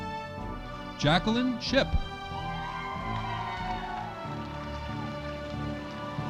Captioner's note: audience applauding